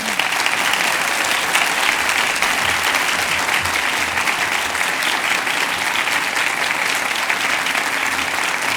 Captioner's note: cheers and applause